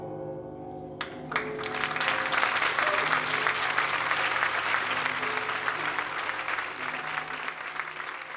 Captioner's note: applause